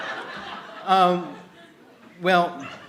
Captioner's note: laughter